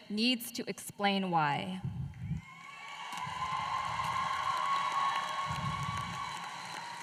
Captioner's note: applause